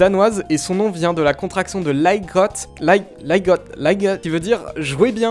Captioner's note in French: bégaiements certains